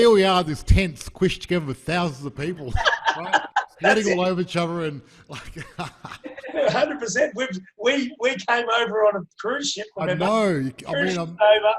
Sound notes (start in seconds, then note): 2.4 all laughing; 5.3 chuckles loudly